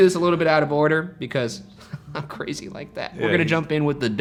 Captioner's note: chuckles